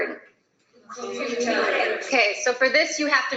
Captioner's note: students speaking in the background